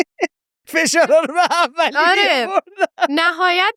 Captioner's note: laughs